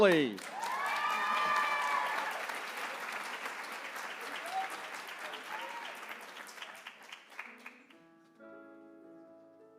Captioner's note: applause